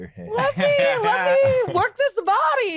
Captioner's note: laughs